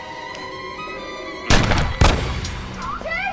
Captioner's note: gunshots